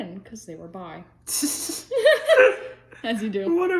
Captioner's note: laughing